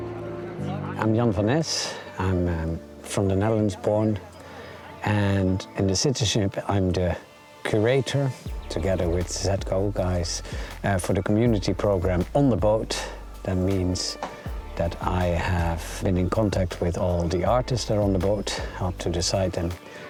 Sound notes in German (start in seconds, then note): 0.8 auf Englisch